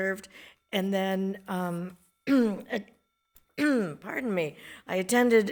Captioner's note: coughs